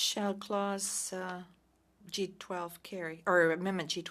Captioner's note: speaking French